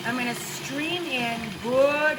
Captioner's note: appliance grinding